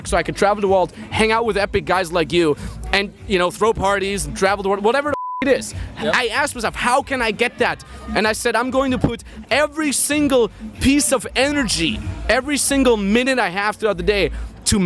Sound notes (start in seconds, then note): 5.0 beep